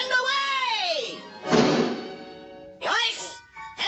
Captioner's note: thud!